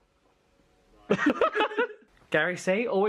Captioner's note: laughs